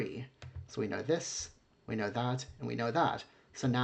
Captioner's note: clicking